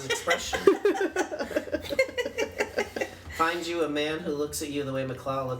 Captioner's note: laugh